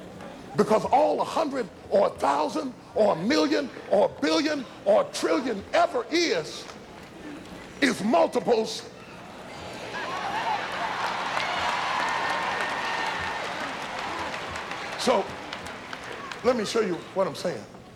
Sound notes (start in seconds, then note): 9.7 applause